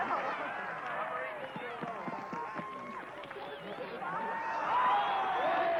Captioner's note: cheering